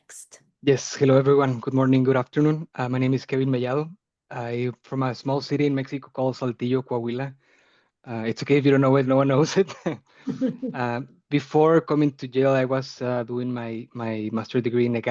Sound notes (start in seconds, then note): 8.1 chuckling; 10.7 laughing